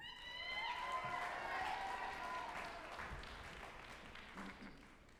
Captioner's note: group applauding and cheering